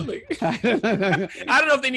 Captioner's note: laughing